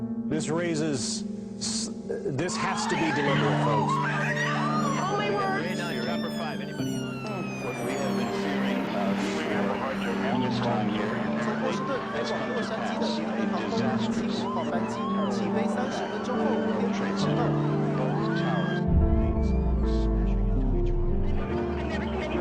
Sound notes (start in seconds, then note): 4.6 people screaming; 6.8 police sirens wailing; 6.8 reporters chattering; 17.3 people screaming; 17.3 tense music